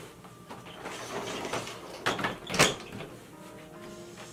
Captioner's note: door closing